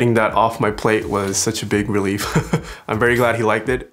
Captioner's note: laughs